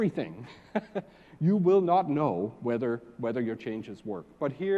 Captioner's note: laugh